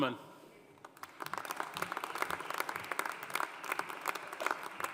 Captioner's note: audience applauding